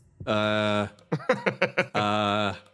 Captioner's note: laugh